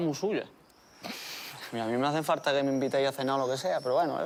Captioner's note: laughs